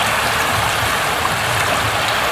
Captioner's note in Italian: Applauso